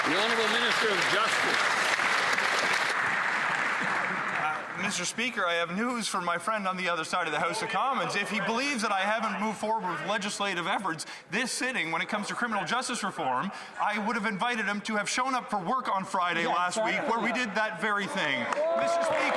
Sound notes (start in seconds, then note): 5.0 some Applause